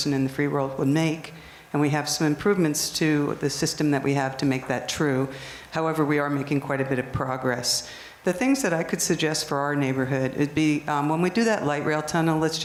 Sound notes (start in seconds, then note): none